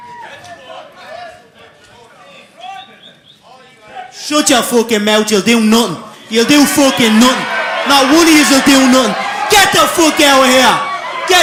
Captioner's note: cheers and applause